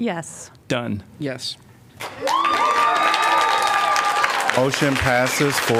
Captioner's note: applause